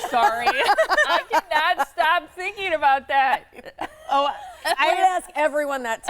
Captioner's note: laughing